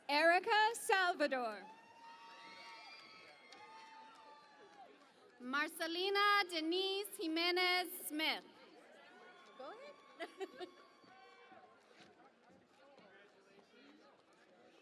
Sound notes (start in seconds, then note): 3.0 cheering and Applause; 8.6 cheering and Applause